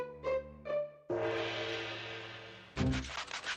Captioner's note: gonging